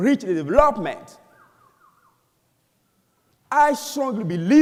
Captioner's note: whistling